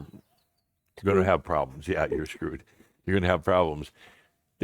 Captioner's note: she giggles again